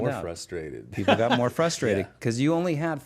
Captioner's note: laughs